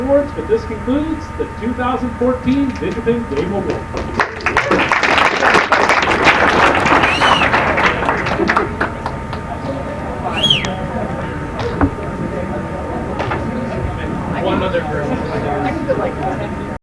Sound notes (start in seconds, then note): 3.6 applause